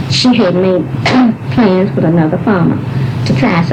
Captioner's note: cough